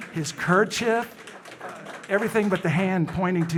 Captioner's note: audience applauding